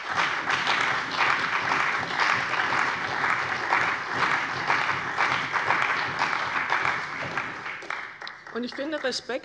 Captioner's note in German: Beifall bei der CDU und dem BÜNDNIS 90/DIE GRÜNEN